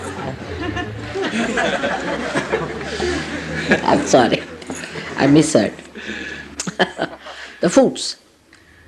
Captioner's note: laughter